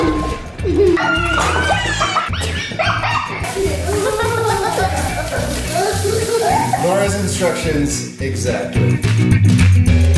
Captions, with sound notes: (laughing) (water running) - Laura's instructions, exactly.